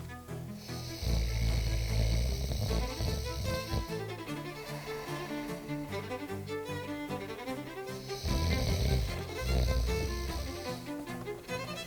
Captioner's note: snoring